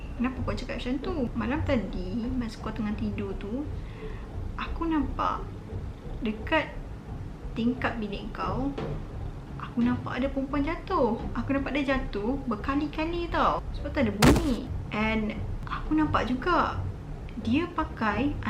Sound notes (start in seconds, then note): 14.2 slam noises